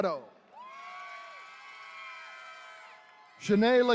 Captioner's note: attendees cheering